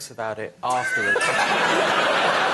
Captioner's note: laughter